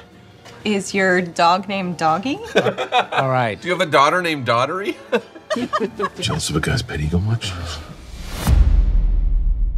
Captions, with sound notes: Is your dog named Doggy? -(LAUGHING) -Alright. Do you have a daughter named Daughtery? (LAUGHING) (WHISPERS) Jealous of a guy’s pet eagle much?